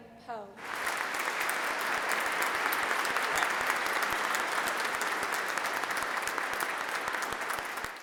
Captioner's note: applause